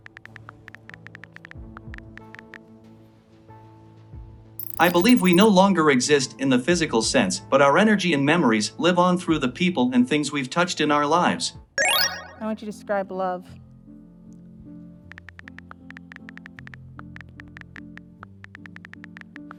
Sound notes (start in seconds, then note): 0.3 futuristic music; 0.3 typing sounds; 13.7 cheerful piano music; 15.1 typing sounds